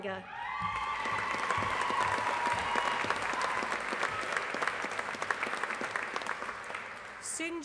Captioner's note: applause